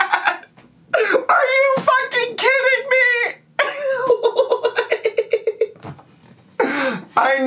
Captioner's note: laughing